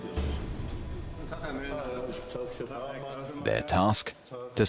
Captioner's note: men speaking German